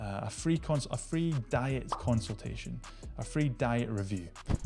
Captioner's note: graphic popping